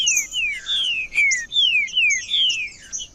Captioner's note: trinca ferro cantando